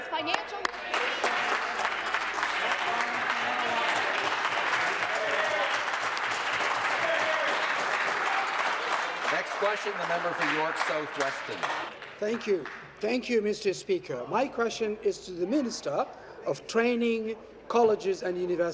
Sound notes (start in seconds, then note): 5.3 applause